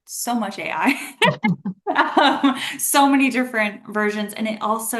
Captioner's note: laughs